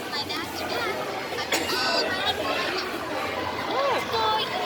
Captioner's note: toy talks and sings